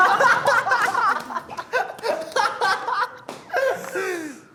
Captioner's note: bursts out laughing